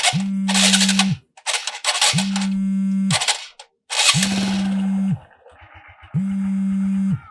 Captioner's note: phone ring